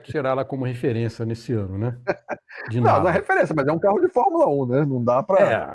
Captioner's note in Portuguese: risadas